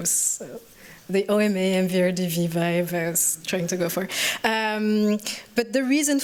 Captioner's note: french